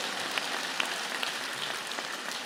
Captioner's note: applause